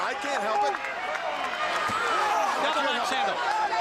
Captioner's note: crowd chatter